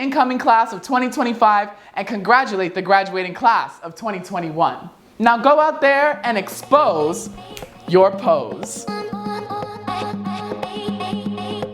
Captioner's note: snap